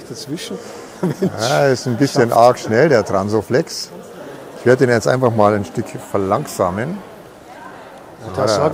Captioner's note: laugh